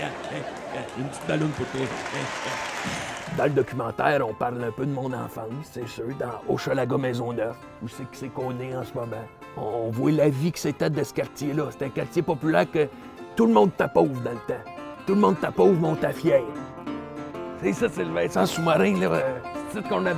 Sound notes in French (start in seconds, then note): 2.1 acclamations